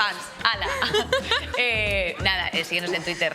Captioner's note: laughter